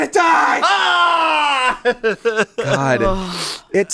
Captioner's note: screams